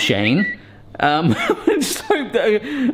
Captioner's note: tweet alert whistles; laughs